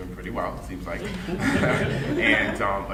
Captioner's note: audience laughing